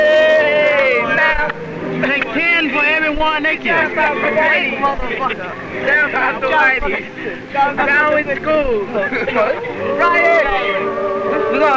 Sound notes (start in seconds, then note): 2.1 hands clapping; 4.9 laughing